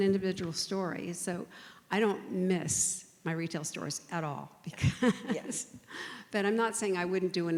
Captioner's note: laughs